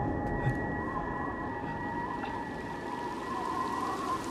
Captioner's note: wind whistling